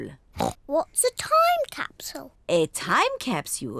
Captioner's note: oinks